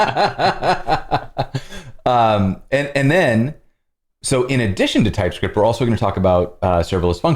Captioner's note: laughter